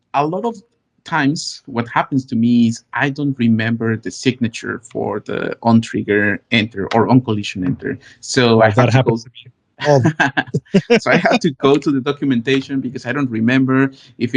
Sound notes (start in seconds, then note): 9.8 laughs